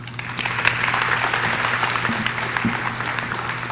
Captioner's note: audience clapping